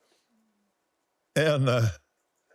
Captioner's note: laughs